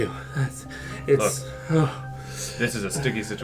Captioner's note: takes a deep breath; takes another deep breath